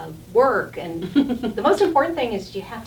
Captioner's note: laughing